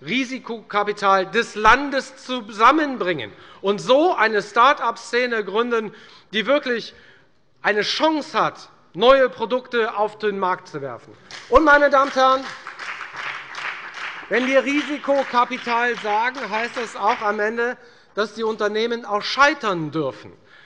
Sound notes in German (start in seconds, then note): 11.2 Beifall bei der FDP